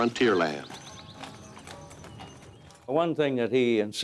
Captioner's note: hooves clopping